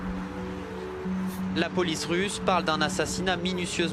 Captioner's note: reporter speaking French